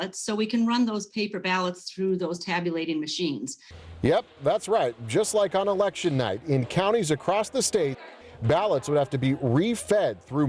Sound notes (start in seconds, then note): 3.8 voiceover